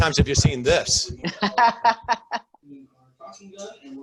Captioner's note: laughing